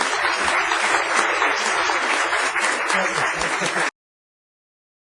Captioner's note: applause